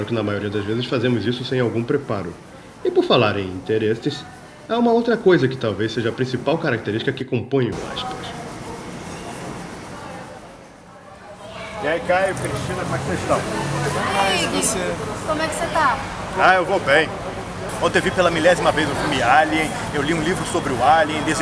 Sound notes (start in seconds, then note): 8.3 making small talk